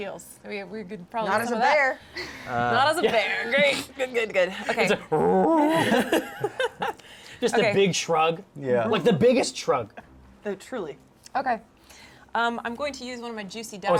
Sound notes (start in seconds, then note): 5.6 bear noises